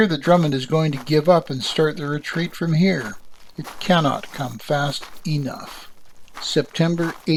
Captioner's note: marching fades